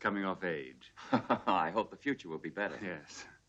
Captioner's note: laughs